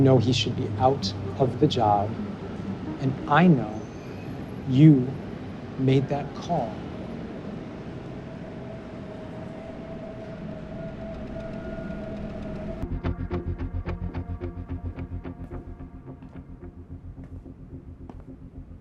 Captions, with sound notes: You know he should be out of the job. And I know you made that call. (city sounds) (suspenseful music) (footsteps tapping)